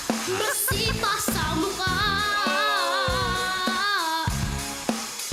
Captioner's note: laughing